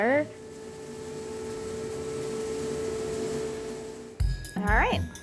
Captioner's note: machine whirring